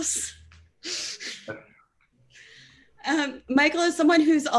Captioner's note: laughing